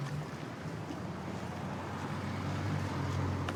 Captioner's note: vehicles driving